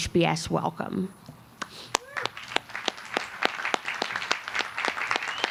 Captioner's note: applause